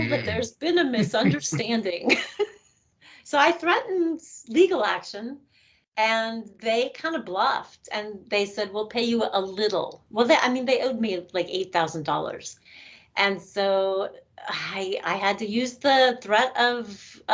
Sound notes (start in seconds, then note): 1.0 laughing